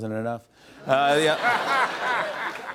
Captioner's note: laughter